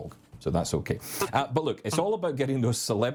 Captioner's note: chuckling